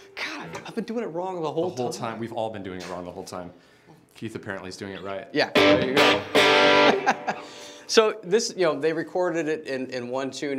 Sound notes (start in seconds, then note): 5.5 strums guitar; 6.6 laughs